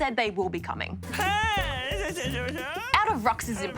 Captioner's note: jabbers